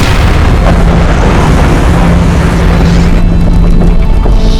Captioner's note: storm swirling; thunder